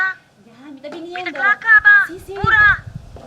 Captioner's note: on the phone